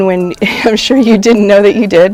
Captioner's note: brief laughter